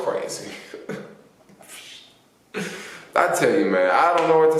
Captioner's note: chuckling